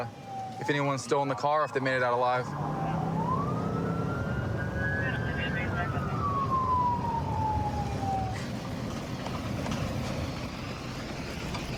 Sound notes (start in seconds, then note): 2.3 police sirens blaring; 5.0 dispatch chatter